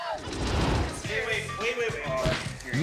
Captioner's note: logo swooshing